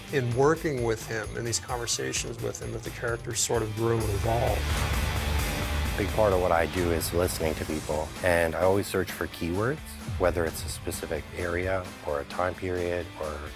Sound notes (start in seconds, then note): none